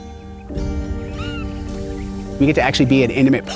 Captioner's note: hawk vocalizing